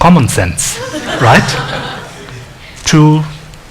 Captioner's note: laughing